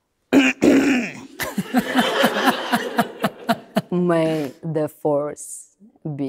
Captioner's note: laughing